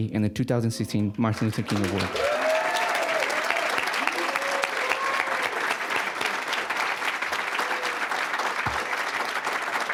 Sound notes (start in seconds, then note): 3.6 cheering, applause; 8.0 applause